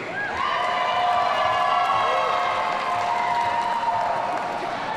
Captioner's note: audience cheering